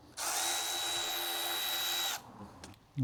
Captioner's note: drilling